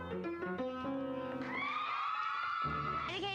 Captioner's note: applause